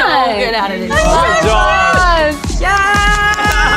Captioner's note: speakers shout